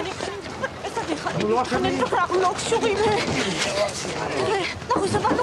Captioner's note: speaks hebrew